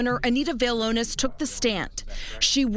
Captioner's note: nats from court